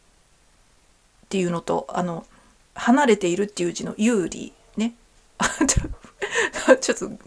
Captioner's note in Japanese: 笑い